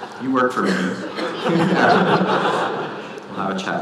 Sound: audience laughing

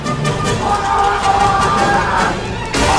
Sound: screm in tourettes guy

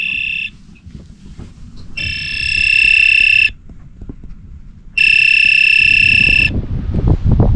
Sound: sound of the alarm clock

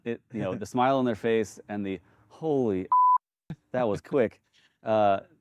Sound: beep

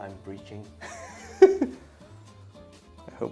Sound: chuckles

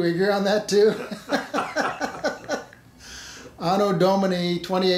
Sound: laughing

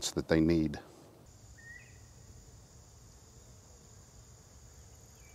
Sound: nature sounds playing

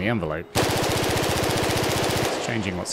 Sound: gunfire

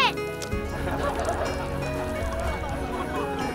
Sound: laughing

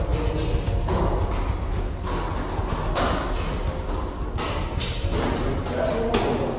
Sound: footsteps approaching

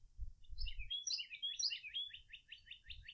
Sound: birds Chirping

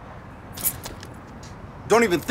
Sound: keys jingle

